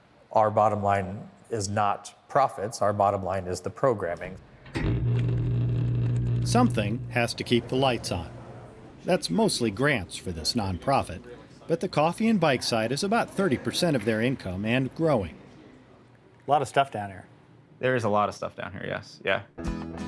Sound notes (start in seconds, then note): 4.6 machine whirring